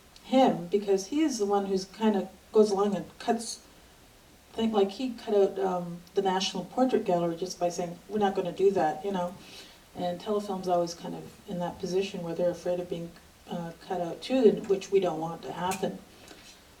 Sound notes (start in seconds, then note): none